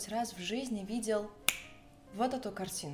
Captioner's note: a snap of fingers